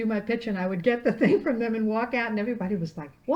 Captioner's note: laughing